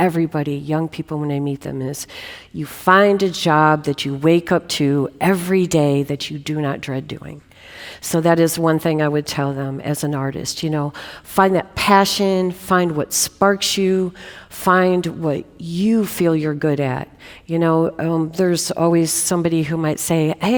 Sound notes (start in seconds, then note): none